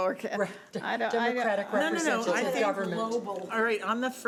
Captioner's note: chattering